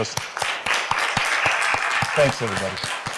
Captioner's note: applause